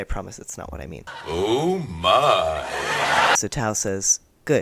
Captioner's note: audience laughter